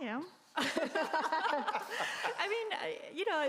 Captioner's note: group laughing